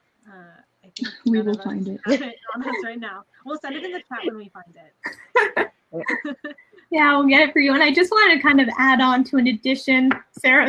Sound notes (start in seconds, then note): 6.0 laughing